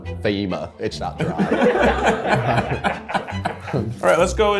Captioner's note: all laughing